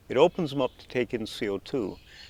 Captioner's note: speaking in Nuu-chah-nulth